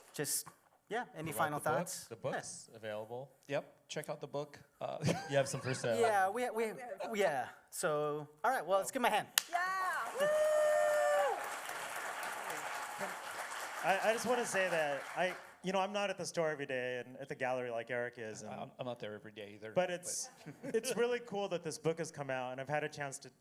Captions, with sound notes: Just any final thoughts? -You want the book? The book is available. Check out the book. You have some free samples. -Well, let's give them a hand. [applause] [crowd cheering] -I just want to say that I'm not at the store every day and at the gallery like Eric is. -I'm not there every day either. -It's really cool that this book has come out and I've had a chance